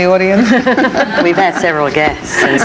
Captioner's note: panelists chuckling